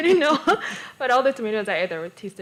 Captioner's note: laughter